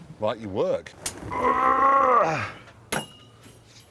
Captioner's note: strains